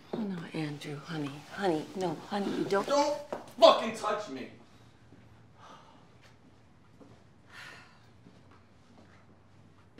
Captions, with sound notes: - No, Andrew, honey, honey, no, honey, don't-- - Don't fucking touch me! [Kate sighs]